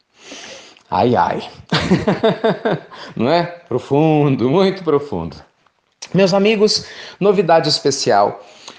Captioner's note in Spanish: risas